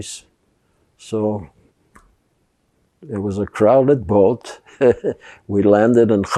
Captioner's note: laughing